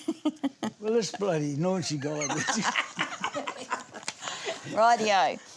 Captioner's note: laughs; all laugh